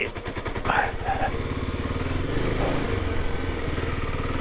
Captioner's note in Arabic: قرقرة المحرك